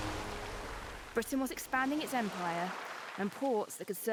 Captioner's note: waves sloshing